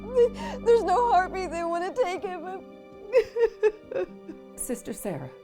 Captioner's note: cries